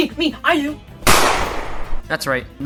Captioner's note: gunshot